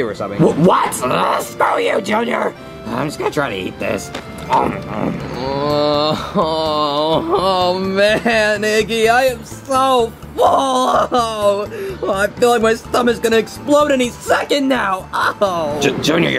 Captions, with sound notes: - What? (grunts) Screw you, Junior? I'm just gonna try to eat this. (munches) - (whimpers) Oh, man. Iggy, I am so full. I feel like my stomach is gonna explode any second now. Oh! - Junior, you barely even